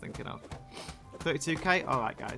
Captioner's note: sneef